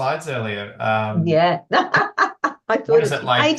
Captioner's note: laughs